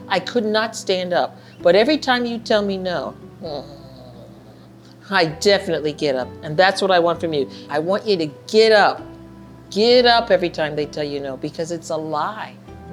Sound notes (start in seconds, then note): 3.4 groaning